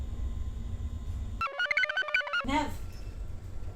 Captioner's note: computer chirps